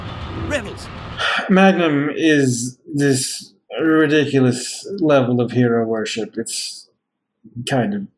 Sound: sighing

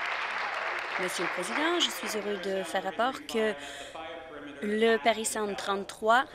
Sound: applause

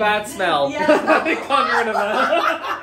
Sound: they laugh

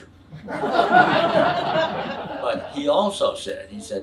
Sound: audience laughs

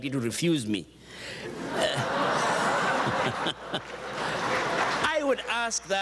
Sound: audience chuckles

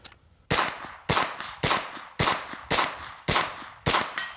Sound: gun firing repeatedly

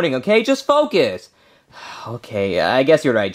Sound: Luigi sighing

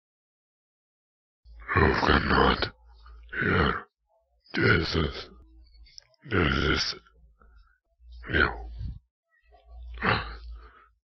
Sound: monster voice

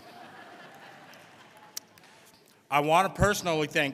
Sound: audience laughing

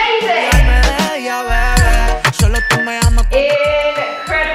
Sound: timer beeping

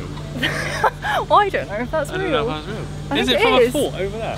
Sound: laughing

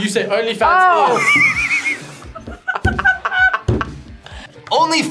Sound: both laugh

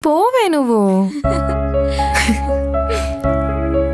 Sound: both giggle

